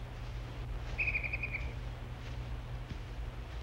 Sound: birds chirping

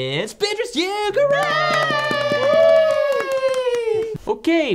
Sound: flat cheers 'Hooray' and applauds

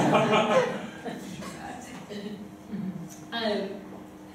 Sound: students laugh

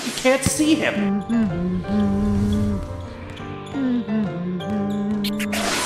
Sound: humming

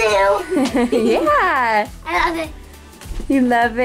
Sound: laughing

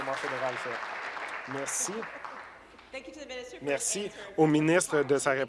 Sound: applause

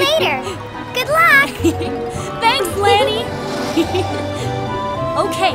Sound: giggling

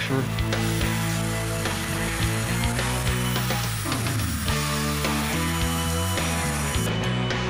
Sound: grinding

